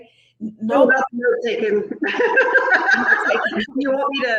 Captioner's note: laughs